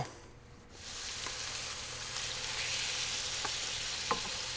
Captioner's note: sizzling